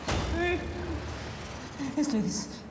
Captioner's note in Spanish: sollozos